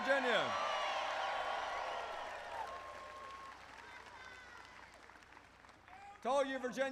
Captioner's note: applause